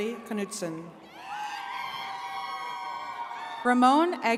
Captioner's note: attendees cheering